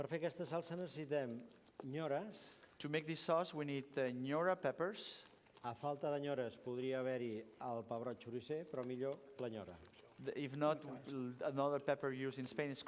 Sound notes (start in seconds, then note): 0.8 non-english speech; 6.7 non-english speech